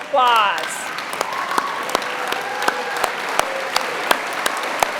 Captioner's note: applause